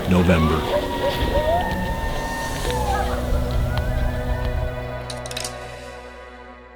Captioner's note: sound of coyotes howling, music starts to fade